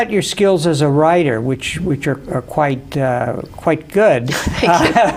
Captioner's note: laughs